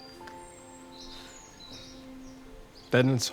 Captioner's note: birds chirping